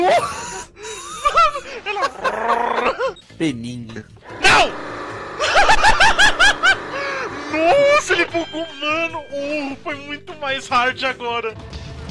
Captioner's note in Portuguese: ruoooo